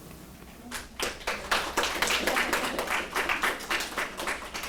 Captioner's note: audience applauds